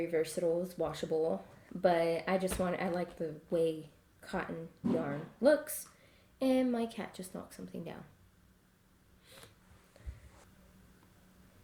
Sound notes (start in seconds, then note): 4.8 something falling in background